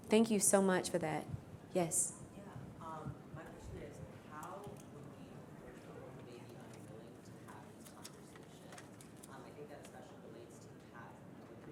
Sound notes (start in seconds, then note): 5.4 speaks faintly